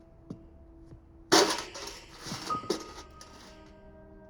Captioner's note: bucket banging